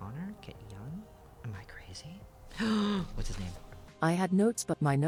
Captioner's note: long dramatic gasp; robot voice